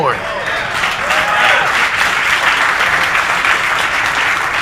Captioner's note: audience applauding